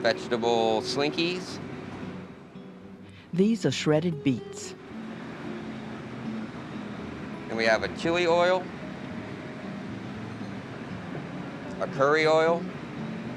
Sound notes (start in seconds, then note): 4.0 voiceover; 5.3 soft jazz guitar music